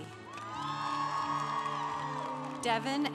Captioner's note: congregation applauding